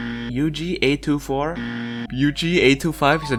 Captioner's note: incorrect buzzer; incorrect buzzer again